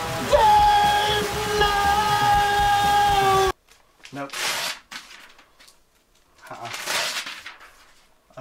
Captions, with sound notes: Dave! No! Nope. [paper rips] Nuh-uh [paper rips]